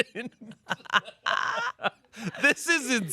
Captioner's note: laugh